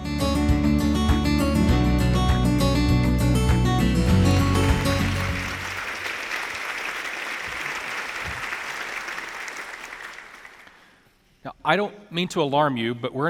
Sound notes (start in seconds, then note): 0.2 bright upbeat music; 3.8 audience applauding